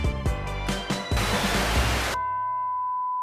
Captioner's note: beep; static; no signal tone